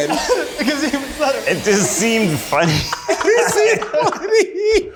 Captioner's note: laughs